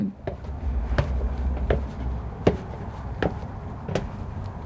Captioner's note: footsteps